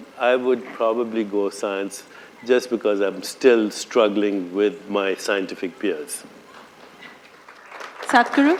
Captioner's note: applause